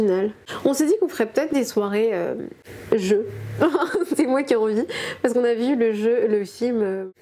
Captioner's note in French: rires